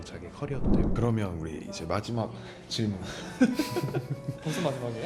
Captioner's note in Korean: 웃음